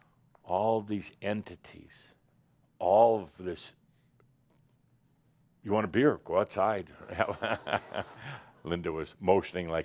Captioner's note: Adamus chuckles